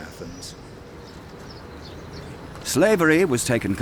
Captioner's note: birds chirping